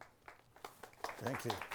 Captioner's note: audience applause